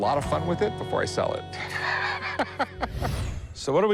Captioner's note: laughs